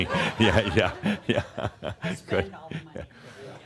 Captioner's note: chuckles